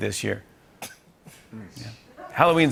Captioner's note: laughing and scoffing